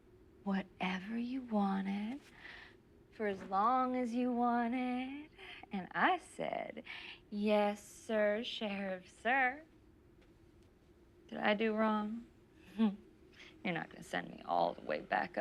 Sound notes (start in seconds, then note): none